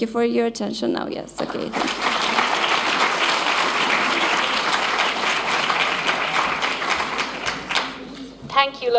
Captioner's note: applause